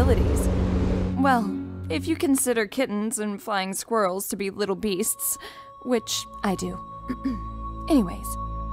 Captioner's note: clears throat